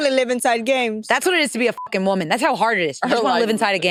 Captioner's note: beep